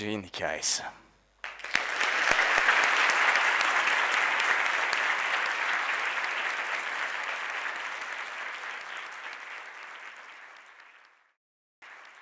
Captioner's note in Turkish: Alkışlar